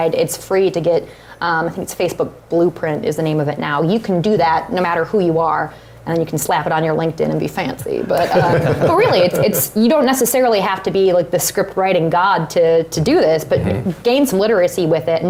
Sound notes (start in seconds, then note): 8.0 laugh